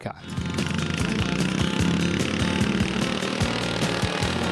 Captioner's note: engine revving